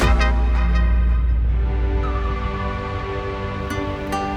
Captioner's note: wind blowing